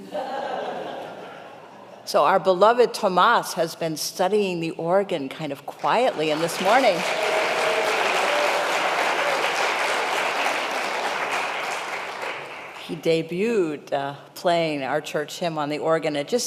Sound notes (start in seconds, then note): 0.0 congregation laughing; 5.8 congregation applauding